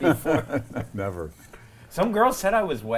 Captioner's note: laughs